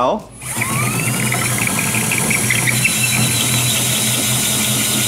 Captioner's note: tenon cutter whirring